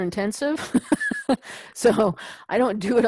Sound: laugh

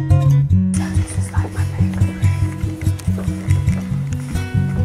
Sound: whispers

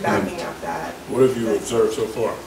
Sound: overlapping chattering

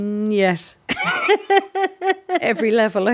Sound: both laughing

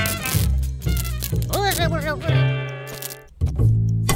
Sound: grumbling

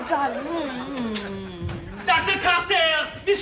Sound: kissy noise

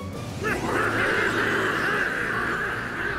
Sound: all grunting

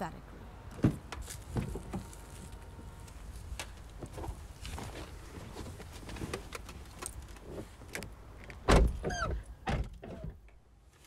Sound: car doors open, they get in, close car doors

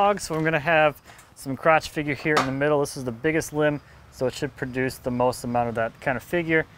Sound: none

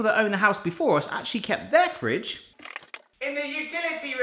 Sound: light scurrying

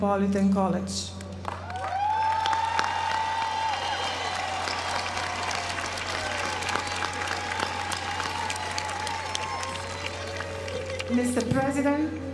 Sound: applause

